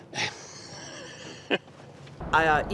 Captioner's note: laughs